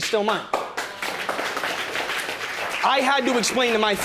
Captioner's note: audience applauds